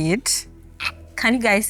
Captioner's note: laughs